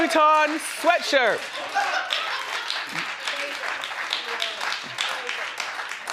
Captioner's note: audience applauding